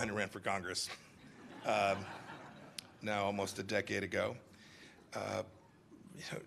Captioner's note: laughter